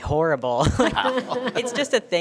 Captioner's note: board members laughing